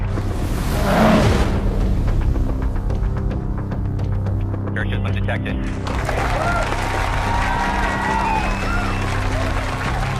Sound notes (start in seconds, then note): 2.3 wind whooshing; 4.3 upbeat tension music; 8.4 crowd clapping and cheering